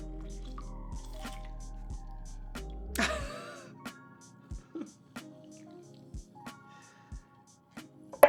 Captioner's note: upbeat music; laughs